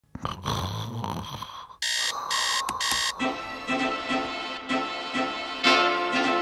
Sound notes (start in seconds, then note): 0.1 snores; 1.8 alarm beeping; 3.1 bouncy music